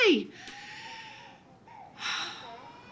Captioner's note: sighs